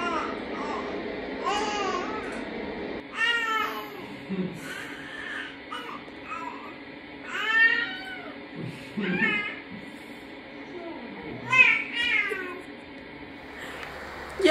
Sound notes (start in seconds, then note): 4.6 laughs; 8.7 giggles; 12.9 laughs